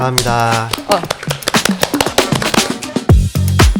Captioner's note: applause